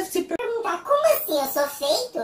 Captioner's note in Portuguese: voz modificada p´/tom engraçado